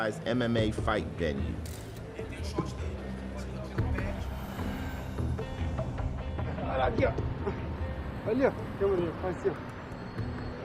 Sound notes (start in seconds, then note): 2.4 speaking Portuguese